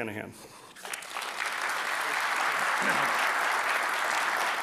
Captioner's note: applause